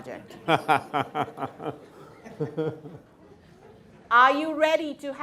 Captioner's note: everyone laughing